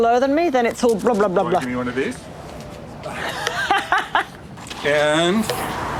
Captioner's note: laughs